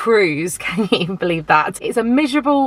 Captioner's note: chuckling